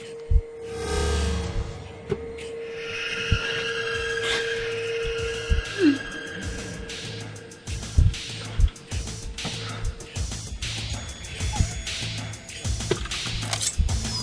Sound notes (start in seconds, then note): 5.4 tense music; 5.6 crying; 11.3 dog whining